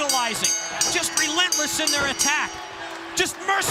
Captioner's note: bell ringing